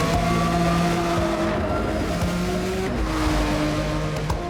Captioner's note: engines whirring